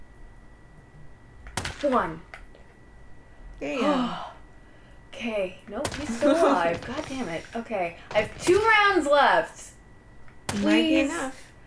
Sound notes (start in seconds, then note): 0.0 long pause; 3.6 sighing